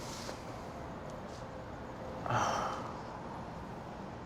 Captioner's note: sigh